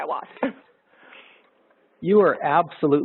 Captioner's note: laughter